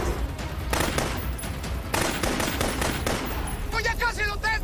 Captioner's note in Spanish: Disparos